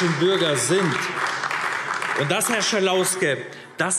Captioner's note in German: Beifall AfD